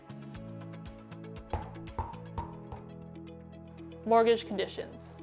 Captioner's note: bouncing